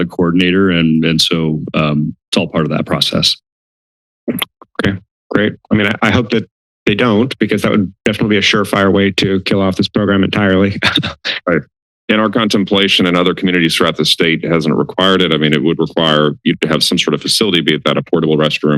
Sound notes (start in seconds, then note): 10.7 laughter